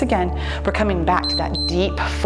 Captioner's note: timer beeps